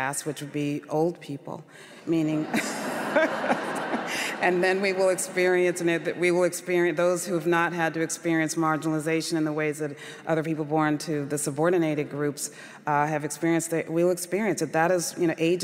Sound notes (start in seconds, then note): 2.4 laughter